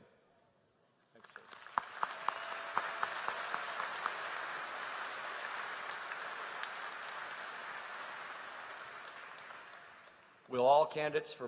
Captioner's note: applause